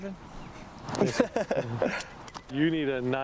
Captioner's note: laughs